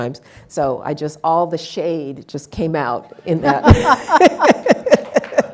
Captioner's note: laughs; audience laughing and applauding